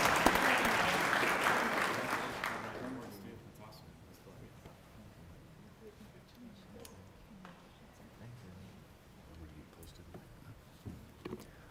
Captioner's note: applause